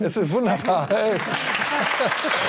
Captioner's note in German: Applaus, Husten